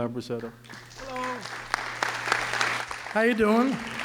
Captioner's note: audience applause